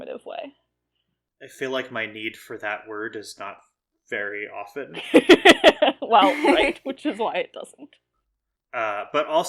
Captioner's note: laugh